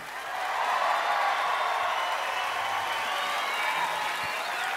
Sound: cheering and applause

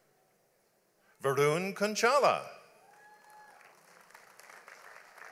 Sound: audience applauds

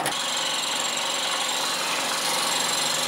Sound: faster whirring

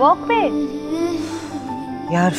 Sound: sighs

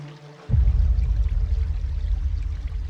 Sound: water flowing down river

